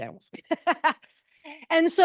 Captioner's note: laughs